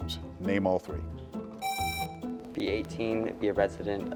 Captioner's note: presses buzzer